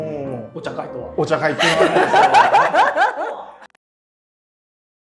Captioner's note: laughing